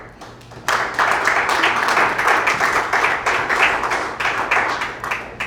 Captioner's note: applause